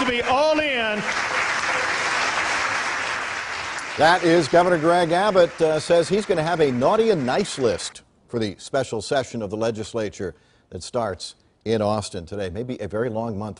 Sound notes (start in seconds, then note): 7.6 applause